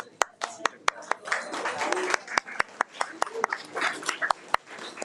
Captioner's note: audience applauding